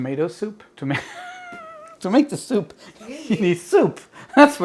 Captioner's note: laughing